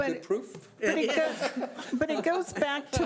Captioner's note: laughing